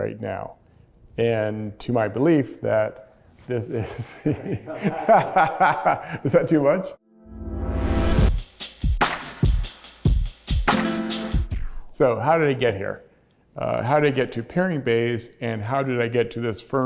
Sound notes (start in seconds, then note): 3.8 laughing; 7.1 upbeat music